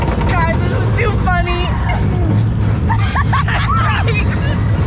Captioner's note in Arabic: يضحك